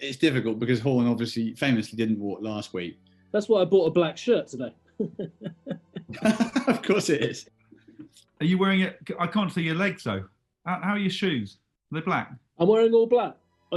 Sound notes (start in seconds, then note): 5.0 chuckling; 5.0 laughing